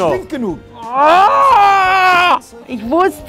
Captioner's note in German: Genervte Laute